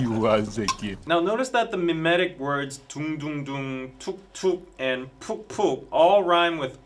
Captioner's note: doong-doong-doong